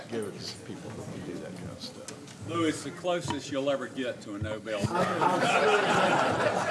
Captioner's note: laughter